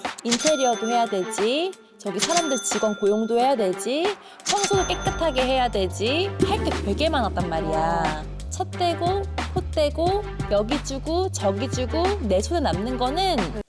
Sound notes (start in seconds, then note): 0.1 money-spending sound effect; 2.1 more money-spending sound effect; 6.4 self-employment is hard sound effect